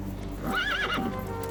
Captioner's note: horse whinnies